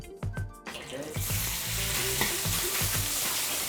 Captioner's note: sizzling